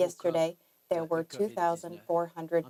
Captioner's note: speaking French